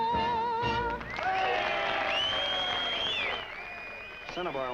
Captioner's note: audience cheering and whistling